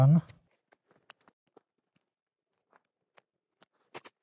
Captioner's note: the sound of the cutting knife when cutting. creak, creak, crunch